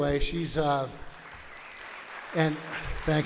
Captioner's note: audience applauds